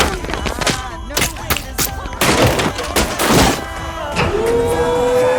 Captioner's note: object thudding and smashing